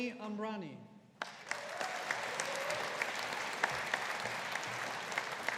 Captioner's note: audience applauding